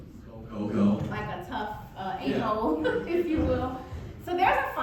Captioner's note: laughs